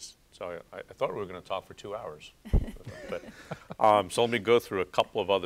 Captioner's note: laughter